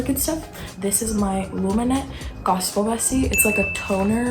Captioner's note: chime